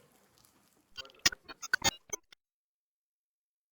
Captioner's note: sharp glitching sound